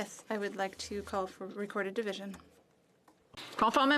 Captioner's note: speaking French